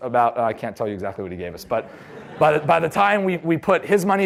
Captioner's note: laughter